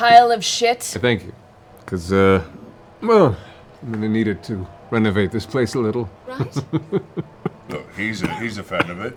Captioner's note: laughs, coughs